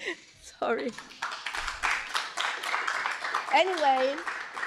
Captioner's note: applause